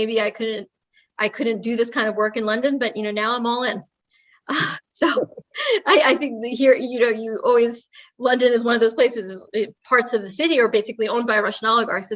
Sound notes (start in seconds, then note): 5.1 laugh